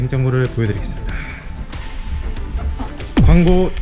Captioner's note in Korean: 심호흡